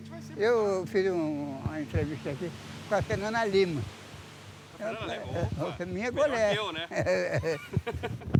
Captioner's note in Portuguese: Risos